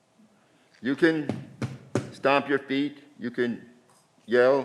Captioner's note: stomps feet